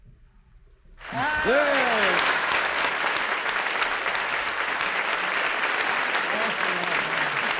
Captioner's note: applause